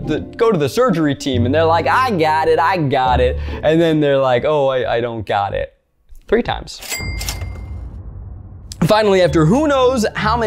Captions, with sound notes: "go to the surgery team." And they're like, "I got it, I got it." And then they're like, "Oh wait, I don't got it." Three times. (cash register chimes) Finally after who knows how many hours,